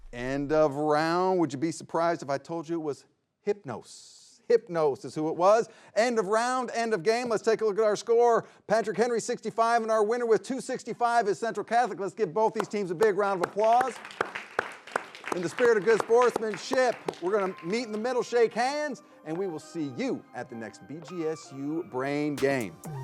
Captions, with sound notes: End of round. Would you be surprised if I told you it was Hypnos? Hypnos is who it was. End of round, end of game. Let's take a look at our score. Patrick Henry 65 and our winner with 265 is Central Catholic. Let's give both these teams a big round of applause. (everyone applauding) In the spirit of good sportsmanship, we're going to meet in the middle, shake hands and we will see you at the next BGSU Brain Game.